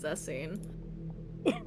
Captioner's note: chokes